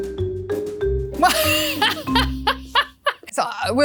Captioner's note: laughs